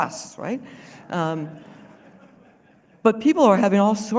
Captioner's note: laughter